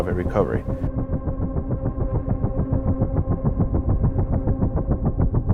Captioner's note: helicopter blades pulsating